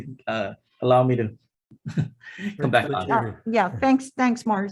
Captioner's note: chuckles